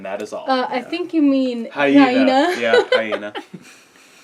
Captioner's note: laugh